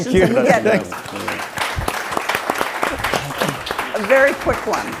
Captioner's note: attendees clapping